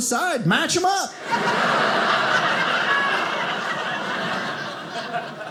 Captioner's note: audience laughing